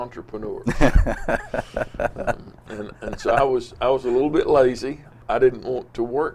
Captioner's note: laughs